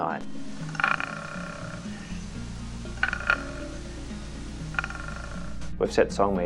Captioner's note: sounds of koala calls can be heard